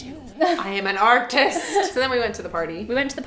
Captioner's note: laughing